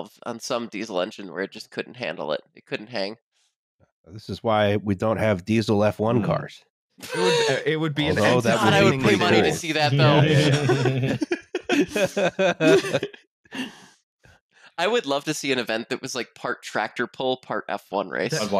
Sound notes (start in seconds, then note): 7.1 laughter; 8.0 chuckles; 9.9 laughter; 18.3 laughs